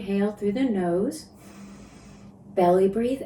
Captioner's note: inhales